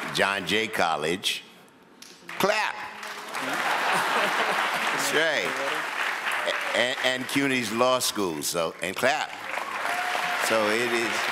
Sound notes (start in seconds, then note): 2.9 audience applauds; 3.4 people chuckle; 8.7 audience applauds